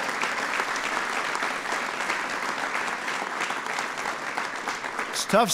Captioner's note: applause